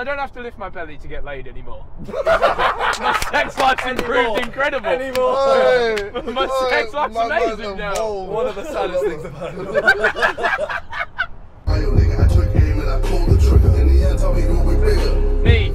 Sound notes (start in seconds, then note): 2.2 all laughing; 10.0 laughing